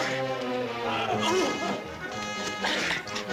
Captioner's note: laughing